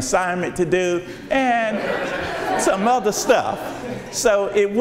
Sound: audience laughs

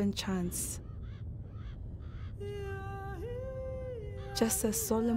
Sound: birds cawing

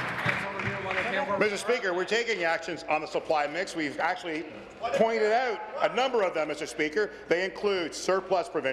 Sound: applause

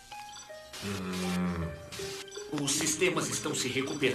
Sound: groaning

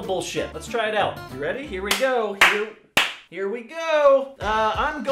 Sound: clap

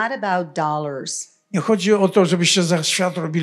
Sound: foreign language

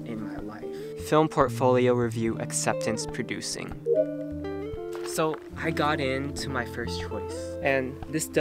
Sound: acceptance sound

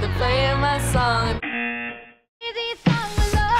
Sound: buzzer

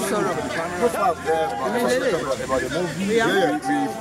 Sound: all chattering

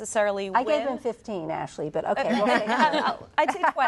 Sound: laughter

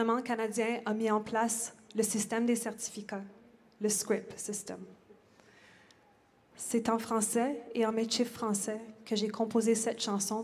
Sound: speaking French

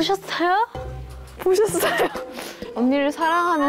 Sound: hahaha

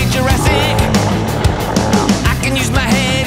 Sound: roar

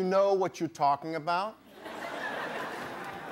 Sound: audience laughing

